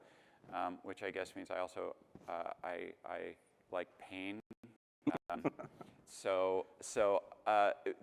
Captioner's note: laughter